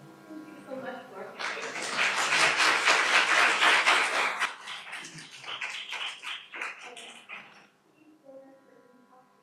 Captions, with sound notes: Oh, thank you, so let's clap. Thank you. (audience applauding)